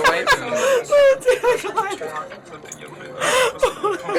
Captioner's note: sobbing